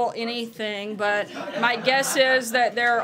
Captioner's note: laughter